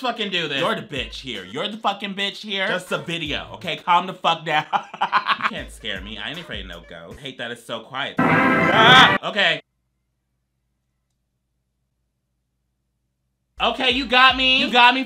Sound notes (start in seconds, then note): 4.6 laughs; 8.2 tense trumpet music; 8.2 wails